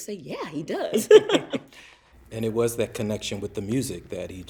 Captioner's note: laughs